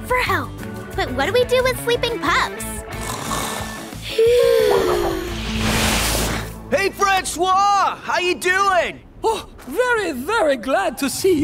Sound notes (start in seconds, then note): 2.9 snoring